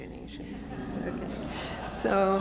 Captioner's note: audience laughs